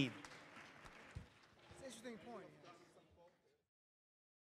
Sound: audience applauds

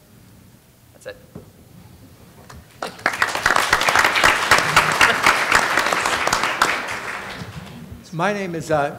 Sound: applause

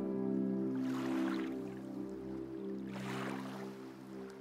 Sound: waves lapping

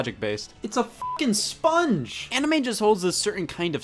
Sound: beep

